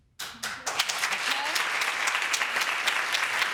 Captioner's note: audience applauding